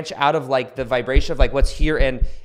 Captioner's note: taps mic